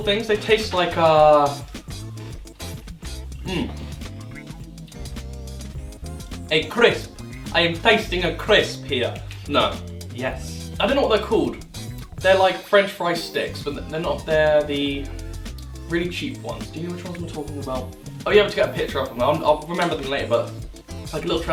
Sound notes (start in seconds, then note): 6.4 bad Italian accent?